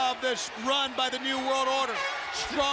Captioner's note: crowd chatter